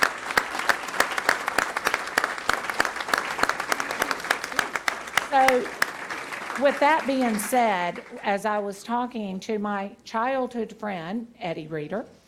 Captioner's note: applause